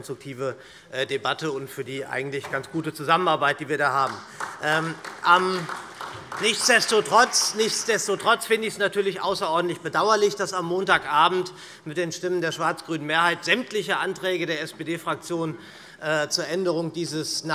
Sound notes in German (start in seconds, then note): 4.0 Vereinzelter Beifall SPD und BÜNDNIS 90/DIE GRÜNEN